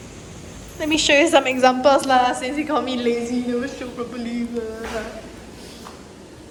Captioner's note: mumble grumble